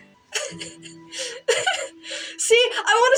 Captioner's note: giggle